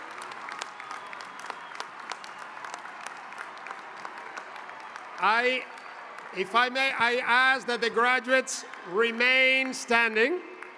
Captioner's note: applause